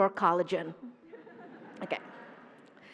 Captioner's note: laughter